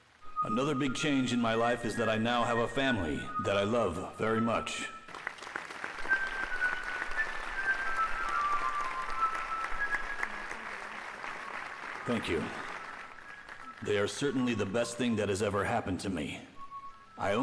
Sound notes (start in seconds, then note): 5.0 audience applauds; 5.2 bright music